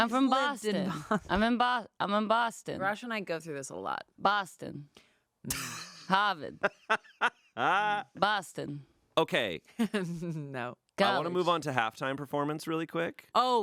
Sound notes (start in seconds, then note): 10.3 laughs